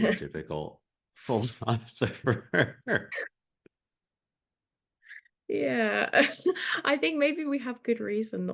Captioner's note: both laugh